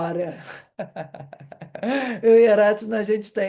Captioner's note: laughter